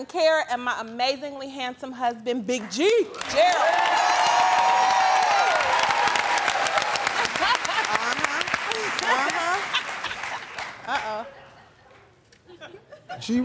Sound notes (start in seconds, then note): 3.7 cheering and applause; 7.1 laughs